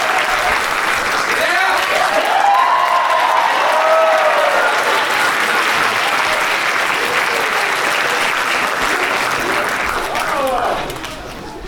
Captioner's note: applause